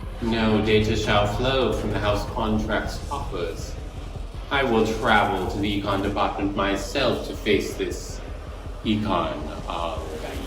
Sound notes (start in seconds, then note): none